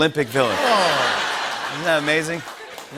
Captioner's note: laughter